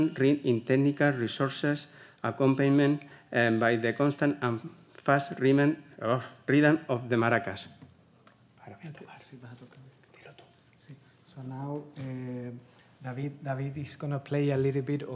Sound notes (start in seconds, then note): 9.1 whispering in Spanish